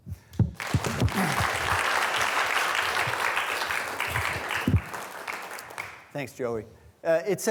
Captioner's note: students applauding